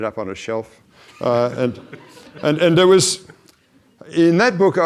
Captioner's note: audience laughs